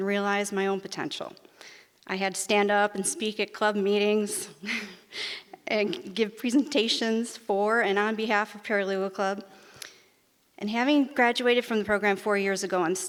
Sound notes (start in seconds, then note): 4.2 giggles